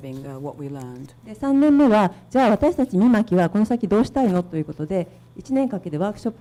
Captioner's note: speaking foreign language